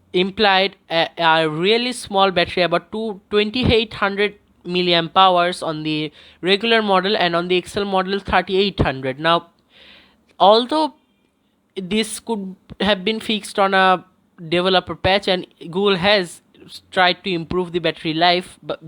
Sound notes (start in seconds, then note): 9.6 breathes